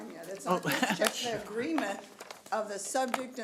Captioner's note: chuckling